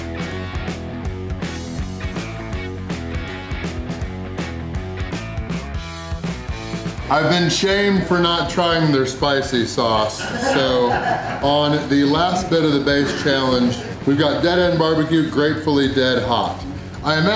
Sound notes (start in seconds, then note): 9.6 crowd laughter